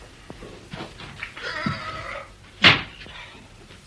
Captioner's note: groans